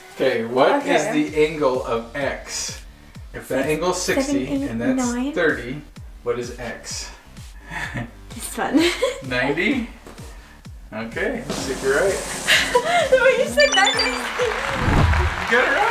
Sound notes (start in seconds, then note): 12.6 laughs; 13.5 high-pitched beeps